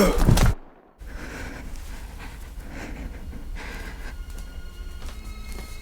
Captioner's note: shivering